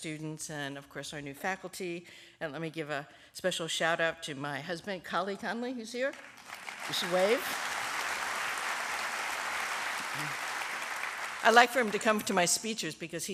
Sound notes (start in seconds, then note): 6.1 applause